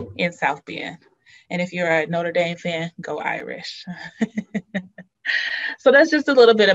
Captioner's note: laughs